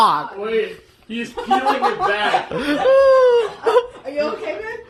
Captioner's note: laughter